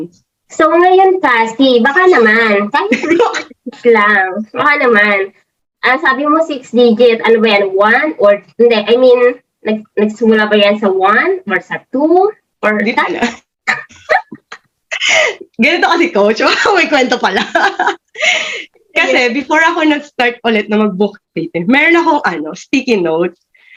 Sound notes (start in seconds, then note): 13.7 both laughed